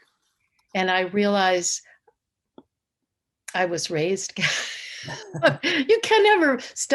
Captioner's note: laughs